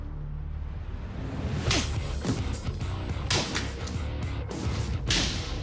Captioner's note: striking sound